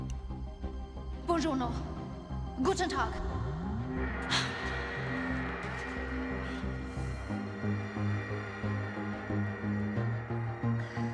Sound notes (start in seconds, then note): 3.7 alarm wailing; 7.2 tense music